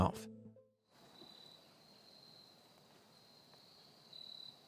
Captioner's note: crickets chirping